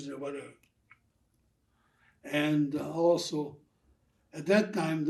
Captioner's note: laughing